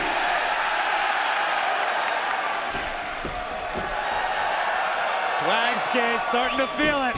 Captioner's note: fans chanting